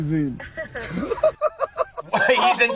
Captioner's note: creator laughing